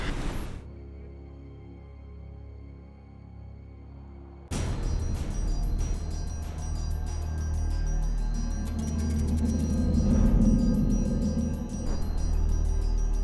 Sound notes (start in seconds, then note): 4.4 solemn music; 8.9 air whooshing